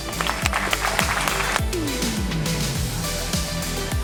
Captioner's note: applause